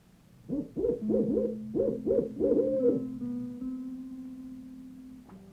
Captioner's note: owl hooting